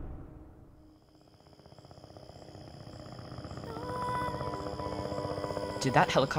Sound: distant helicopter whirring

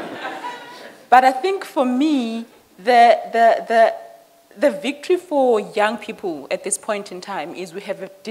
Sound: laughter

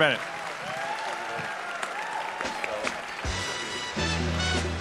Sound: audience applause; upbeat music

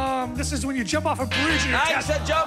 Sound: buzzer sounds

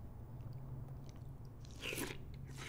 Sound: slurping

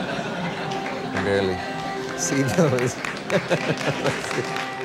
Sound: laughs

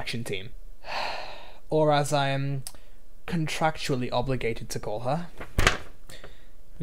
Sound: sigh

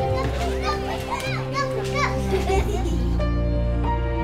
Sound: chattering

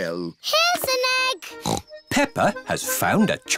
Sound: snorts

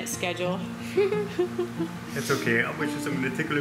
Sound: laughter

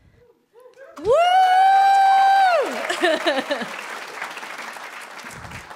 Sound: applause

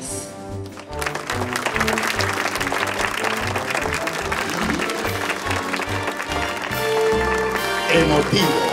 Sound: applause

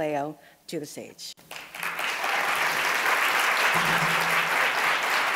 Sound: audience applauding

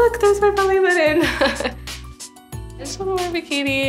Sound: laugh

